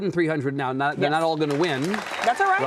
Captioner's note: audience clapping